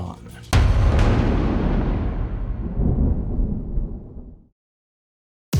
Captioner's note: cinematic impact